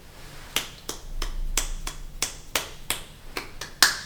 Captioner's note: snaps; claps